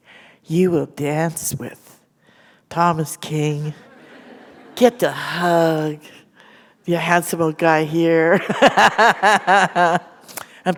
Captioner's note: laughter